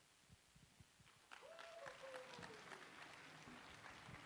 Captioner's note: applause